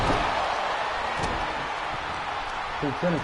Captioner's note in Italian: Applauso